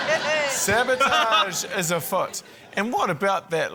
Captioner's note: laughs